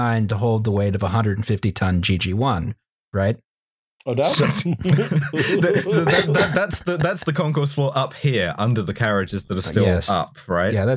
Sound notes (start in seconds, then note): 4.4 laughter; 4.7 snorts